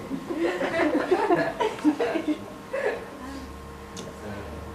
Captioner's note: audience laughter